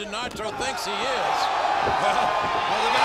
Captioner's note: troops cheer